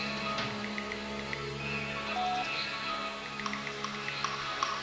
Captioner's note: meter beeps